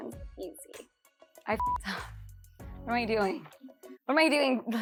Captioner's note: beep